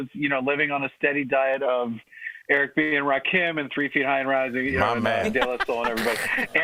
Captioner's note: laughter